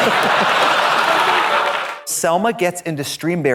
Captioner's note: audience laughs; upbeat music